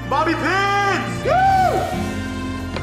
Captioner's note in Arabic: وووو